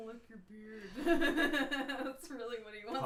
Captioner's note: laughing